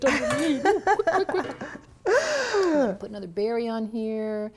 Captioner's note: laughs